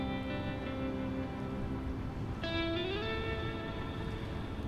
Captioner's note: waves lapping